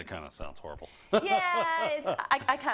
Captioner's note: laugh